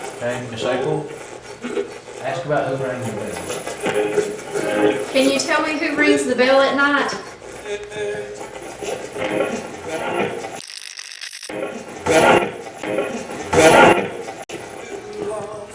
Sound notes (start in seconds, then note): 10.6 radio scratching; 13.2 radio voice